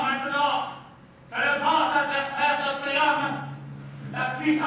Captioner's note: speaks in foreign language